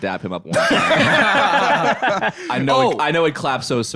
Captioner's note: all laughing